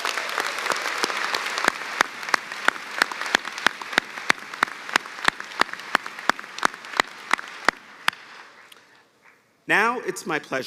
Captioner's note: cheers and applause